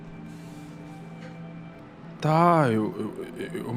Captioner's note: none